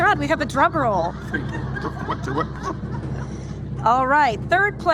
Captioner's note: drum roll rumbling; audience laughing